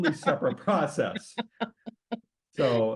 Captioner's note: laughs